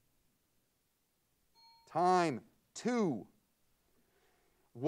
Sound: bell pings

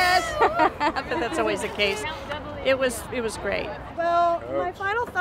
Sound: laughing

